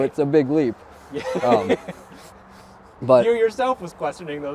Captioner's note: laughing